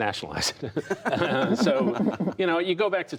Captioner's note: laughter